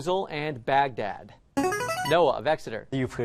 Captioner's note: chiming